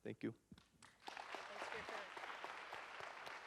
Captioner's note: audience applauds